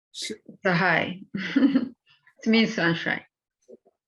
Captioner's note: laughs